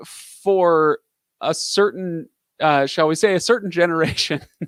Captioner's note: laughing